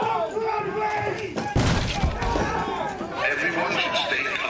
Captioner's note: continue shouting